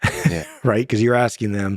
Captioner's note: laughs